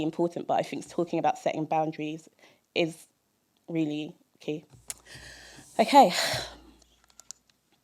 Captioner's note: sigh